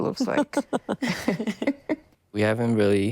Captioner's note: laughter